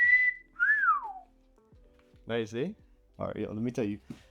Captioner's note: whistling